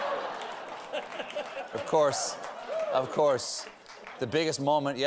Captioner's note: laughter